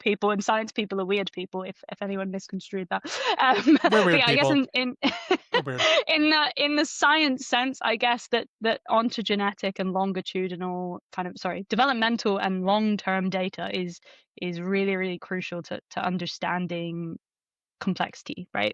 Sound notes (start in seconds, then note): 3.6 laughs